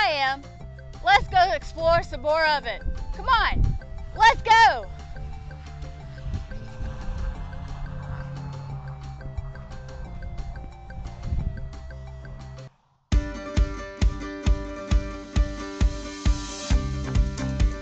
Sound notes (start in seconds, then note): 9.3 engine roaring; 13.1 upbeat music